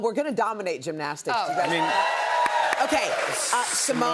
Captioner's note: cheers and applause